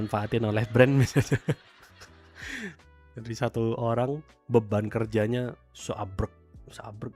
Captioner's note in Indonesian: tertawa